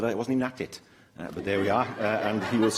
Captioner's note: laughter